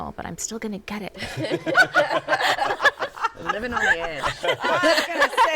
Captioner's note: laughter